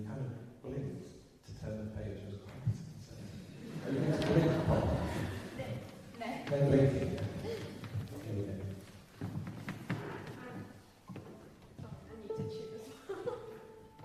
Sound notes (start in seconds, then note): 3.6 laughter; 13.3 tunes her violin